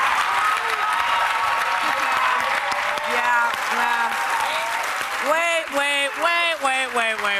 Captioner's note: cheers and applause